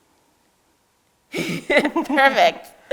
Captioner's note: both laughing